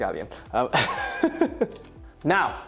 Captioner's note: laughs